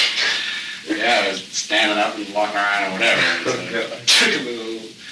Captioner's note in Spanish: Risas